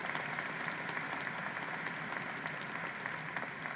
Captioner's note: applause